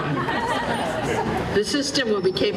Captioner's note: laughter